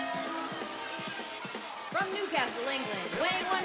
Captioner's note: bell ringing